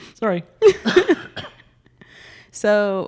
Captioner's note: laughing